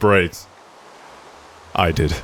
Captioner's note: rain